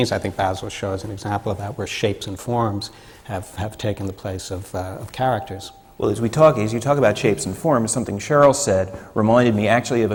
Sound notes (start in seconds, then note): none